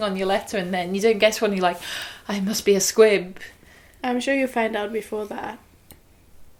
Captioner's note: gasp